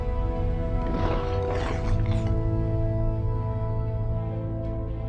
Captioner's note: crunching